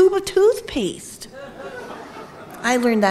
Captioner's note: audience laughing